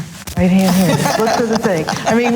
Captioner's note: all laughs loudly